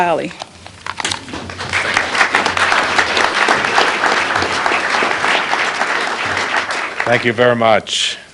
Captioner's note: applause